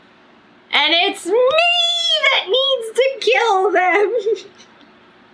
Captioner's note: laughs